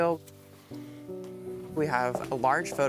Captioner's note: paper rustling